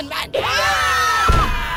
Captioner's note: scream